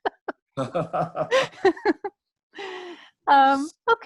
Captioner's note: laughs